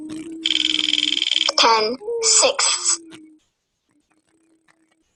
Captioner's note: wheel clicking; voiceover